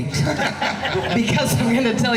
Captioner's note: laughing